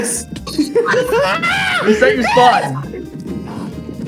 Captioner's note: screams